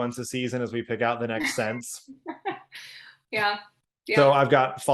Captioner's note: laughing